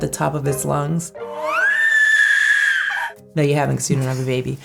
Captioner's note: baby shrieking